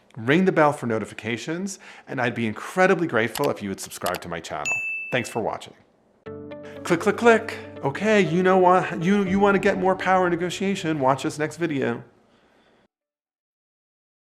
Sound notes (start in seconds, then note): 4.7 bell dinging; 6.2 light music